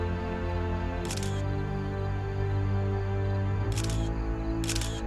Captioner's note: camera snapping